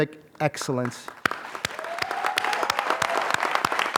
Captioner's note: applause